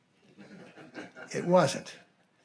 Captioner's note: audience laughing